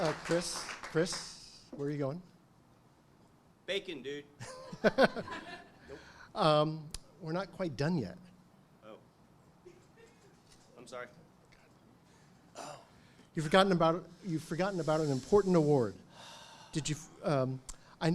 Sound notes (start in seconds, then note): 4.6 audience chuckles; 7.0 chuckles